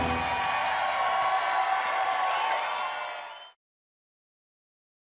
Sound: applause and cheering

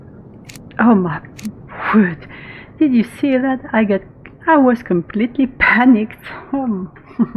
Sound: laughs

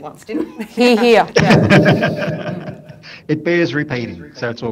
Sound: panelists laughing

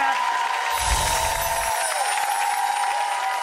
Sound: applause

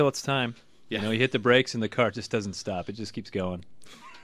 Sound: laughs

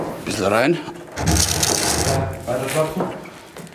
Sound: crunch

